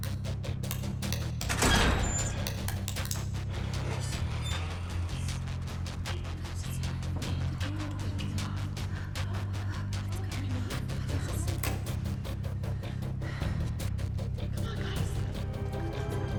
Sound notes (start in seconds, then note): none